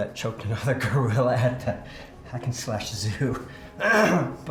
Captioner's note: clears throat